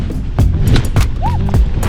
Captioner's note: wind; snap; surprised shriek